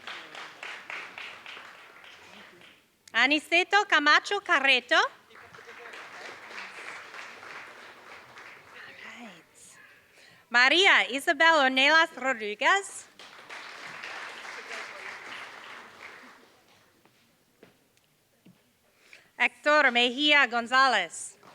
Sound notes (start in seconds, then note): 0.0 applause; 5.0 applause; 13.0 applause